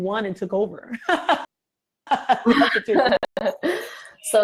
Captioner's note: both laugh